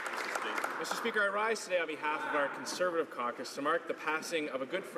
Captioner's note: some Applause